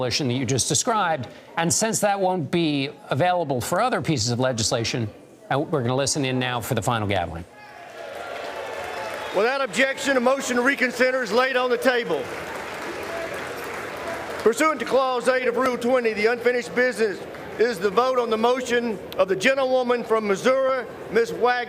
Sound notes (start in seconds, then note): 14.0 applause